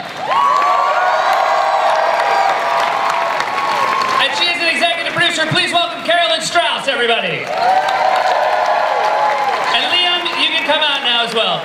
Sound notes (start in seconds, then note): 0.0 cheers, applause